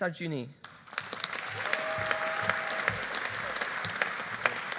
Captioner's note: audience applauding